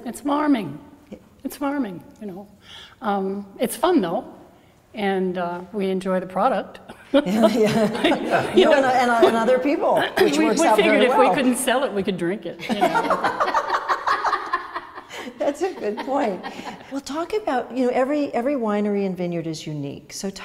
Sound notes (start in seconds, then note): 7.0 laughs; 12.6 women laughing